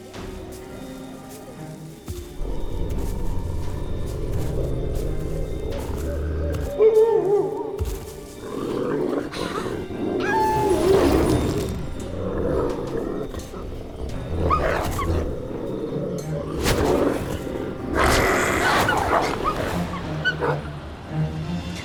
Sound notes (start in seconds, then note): 0.1 suspense music; 2.6 wolf growls; 6.7 wolf howls; 9.5 wolf growls; 12.5 Mischa growls